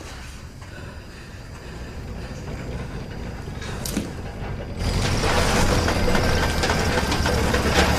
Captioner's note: car rattling getting closer